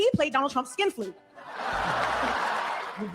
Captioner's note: audience laughing